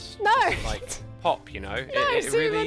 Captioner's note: laughs